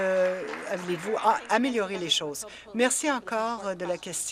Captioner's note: applause